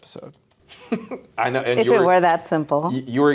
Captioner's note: laughing